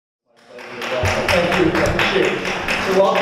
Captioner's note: applause